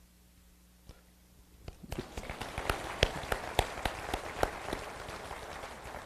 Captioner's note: applause